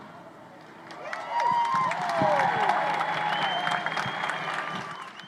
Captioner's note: crowd applauding